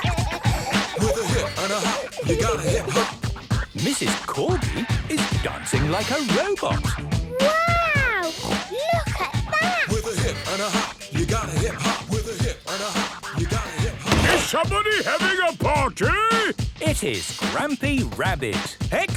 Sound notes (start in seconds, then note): 14.2 shouts